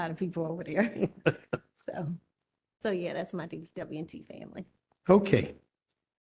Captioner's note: laughter